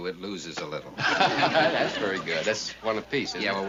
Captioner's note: laughs